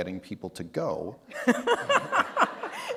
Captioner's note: laughter